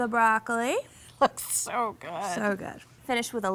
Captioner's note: laughing